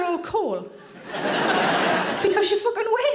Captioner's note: audience laughing